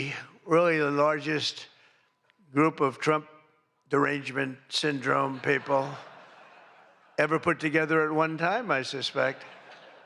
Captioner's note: laughter